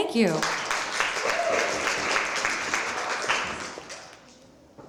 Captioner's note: applause